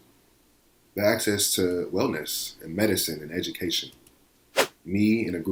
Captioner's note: whoosh